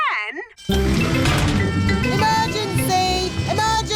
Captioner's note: siren blaring